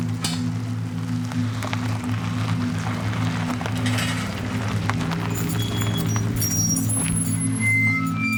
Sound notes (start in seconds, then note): 1.7 tires on gravel